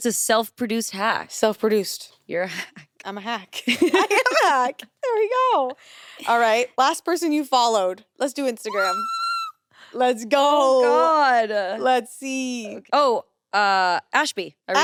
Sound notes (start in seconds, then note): 3.8 everyone laughs; 8.6 shrieks